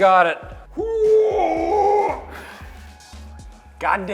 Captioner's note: grunting